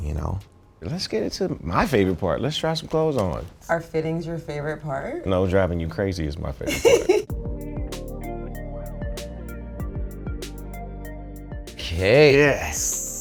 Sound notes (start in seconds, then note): 6.7 laughs; 7.3 electronic music plays